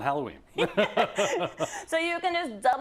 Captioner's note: laugh